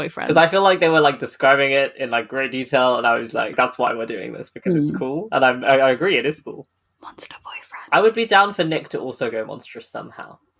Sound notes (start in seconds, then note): 6.8 whispers